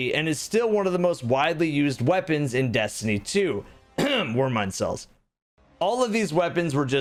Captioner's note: ahem